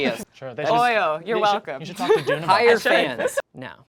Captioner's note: overlapping chattering